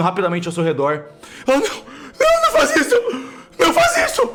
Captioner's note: screaming